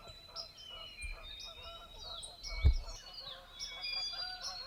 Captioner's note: geese honking